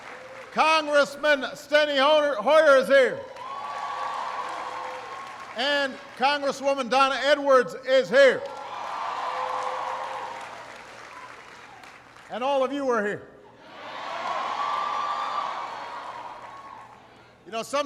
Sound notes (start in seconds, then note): 5.0 applause; 10.3 applause; 17.6 applause